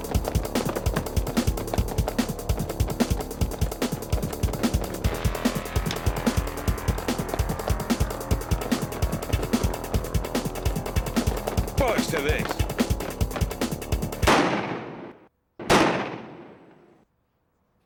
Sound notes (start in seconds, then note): 15.6 gunfire blasting